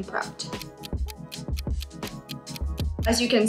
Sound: clock ticking

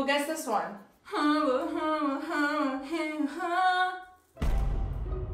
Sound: mimics tv theme song

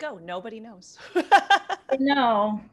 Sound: laughter

